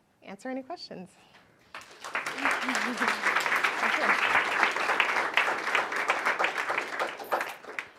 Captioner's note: applause